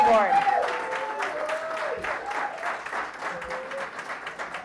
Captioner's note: applause